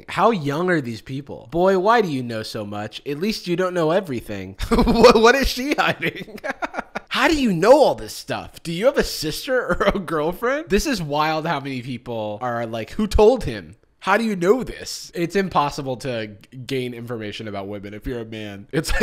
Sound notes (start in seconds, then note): 6.3 laughs